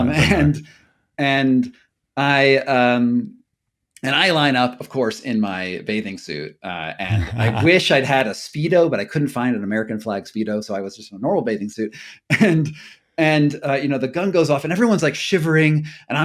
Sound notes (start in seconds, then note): 0.0 chuckling; 7.0 laughing